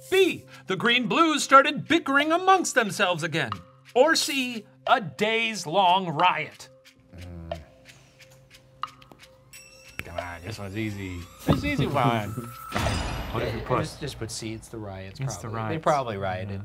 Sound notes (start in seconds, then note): 7.3 timer softly ticking